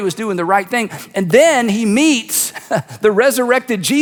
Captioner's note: laughs